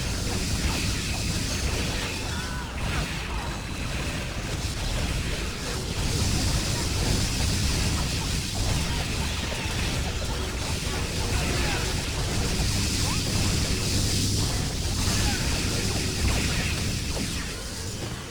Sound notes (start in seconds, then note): 1.0 explosions